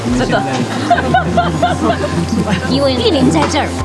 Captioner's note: laughter